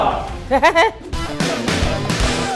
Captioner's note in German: Hohes Lachen